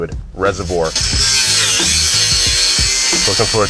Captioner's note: grinder buzzes